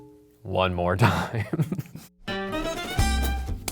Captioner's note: laughs; lively country music